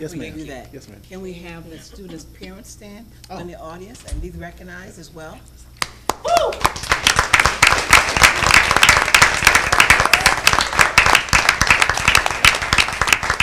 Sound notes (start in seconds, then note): 5.8 applauding